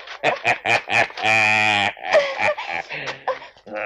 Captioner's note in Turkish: Kahkahalar